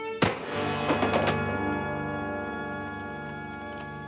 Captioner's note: man thuds